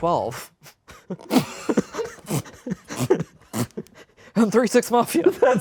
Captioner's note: laughs